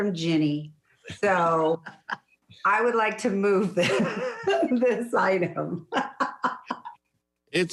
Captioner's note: laughs